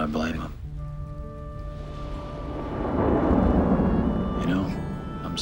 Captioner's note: thunder continues rumbling